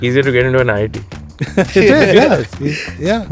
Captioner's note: laughs